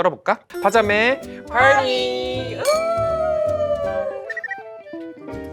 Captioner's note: clink